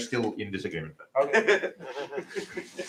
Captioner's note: laughs